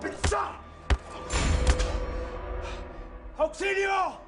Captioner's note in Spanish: Golpes